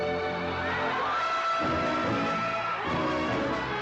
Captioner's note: crowd cheering